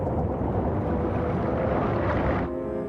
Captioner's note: aircraft noise